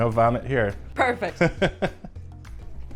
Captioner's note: laughs